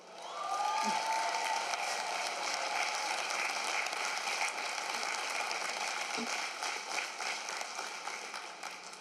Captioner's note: cheering and applause